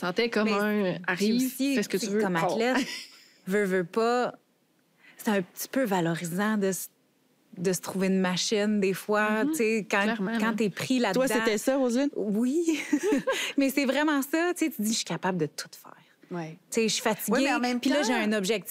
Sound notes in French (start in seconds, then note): 12.7 rires